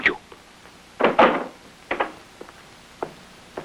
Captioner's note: door bangs